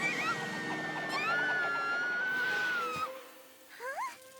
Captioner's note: screaming